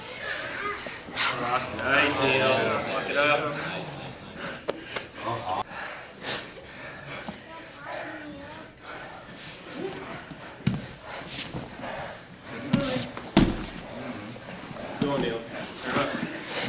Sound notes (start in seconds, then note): 6.1 heavy breathing; 9.2 soft shuffling